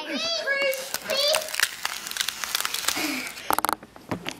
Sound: crackling noise

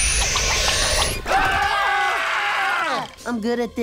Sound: screaming

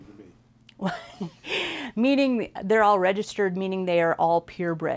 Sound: laughs

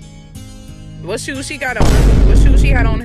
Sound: bang

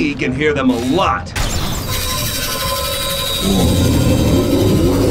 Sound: sonic whistling

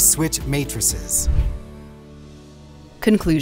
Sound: air whooshes

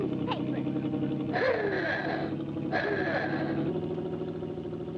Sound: ooga horn blares

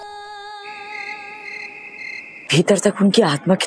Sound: crickets chirping

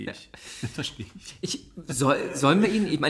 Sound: laughs

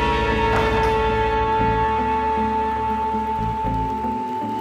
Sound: backboard clanks

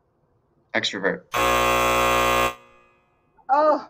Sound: ending buzzer

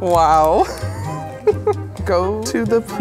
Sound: laughs

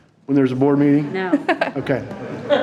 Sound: audience laughing

